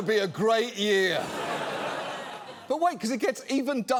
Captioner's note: studio audience laughs